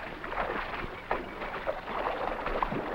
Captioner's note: none